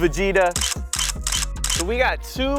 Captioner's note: camera clicks